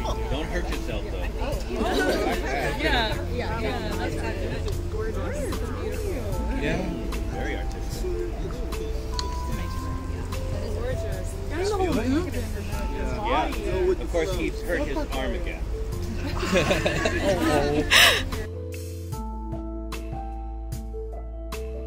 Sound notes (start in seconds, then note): 1.8 laughter; 5.2 chatter; 11.0 chatter; 16.1 laughter